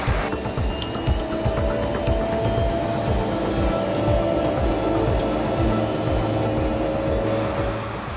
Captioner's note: aircraft engine revs; aircraft cabin noise